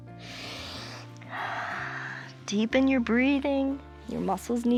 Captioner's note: inhales and exhales